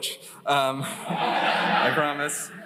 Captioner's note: laughter